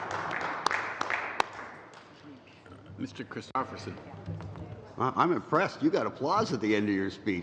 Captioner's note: applause